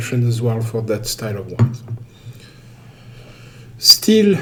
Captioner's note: wine glass thuds